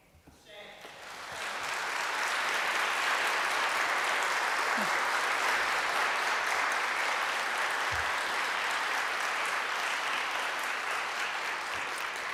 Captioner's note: applause